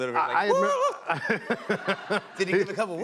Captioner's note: laughter